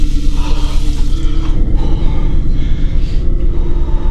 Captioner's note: Scott panting